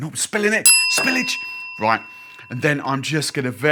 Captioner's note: bell dings